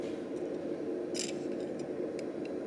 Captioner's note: pliers squeaking